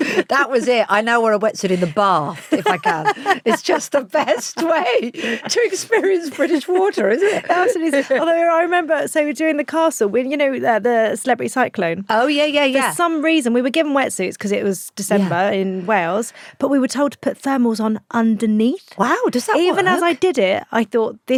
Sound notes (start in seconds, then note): 0.0 laughs; 2.9 laughs